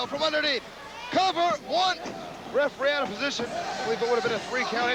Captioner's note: crowd cheering